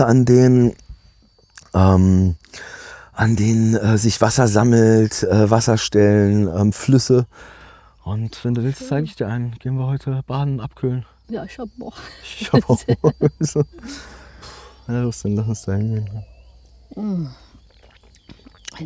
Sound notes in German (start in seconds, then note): 12.0 gelächter